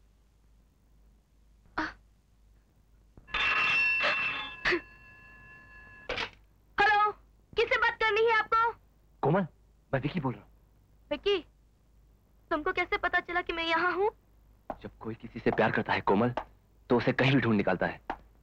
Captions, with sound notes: - (Crying) - (Phone ringing) Hello! Whom do you want to talk with? - Komal, Vicky here. - How did you know I was here? Komal, when you love a person you can trace them anywhere.